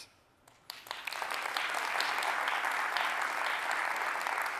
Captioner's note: applause